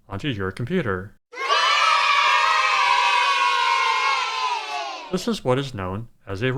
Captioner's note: kids cheering